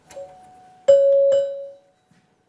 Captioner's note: bright sound